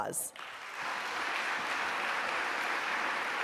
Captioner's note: applause